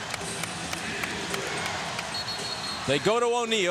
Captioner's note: whistle blows